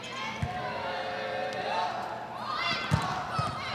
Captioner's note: players shouting indistinctly; ball thumping